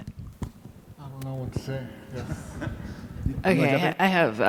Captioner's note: laughs